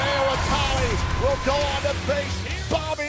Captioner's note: bell ringing